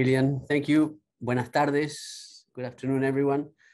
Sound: speaking Spanish

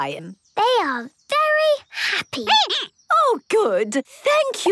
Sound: squeaking

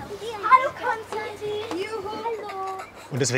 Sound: children's voices

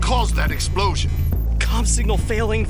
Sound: alarms beeping

